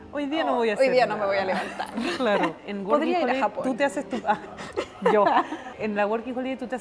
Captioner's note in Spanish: risas